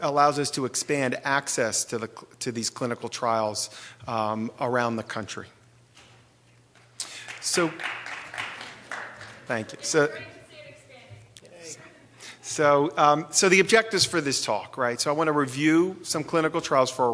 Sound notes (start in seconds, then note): 7.2 applause